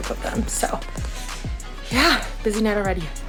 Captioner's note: exhales